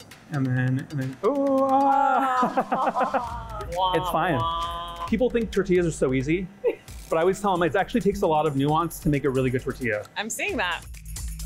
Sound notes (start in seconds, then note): 1.2 chuckling; 1.2 laughing; 11.3 upbeat music